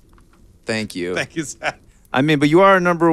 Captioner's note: laughing